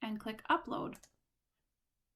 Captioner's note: click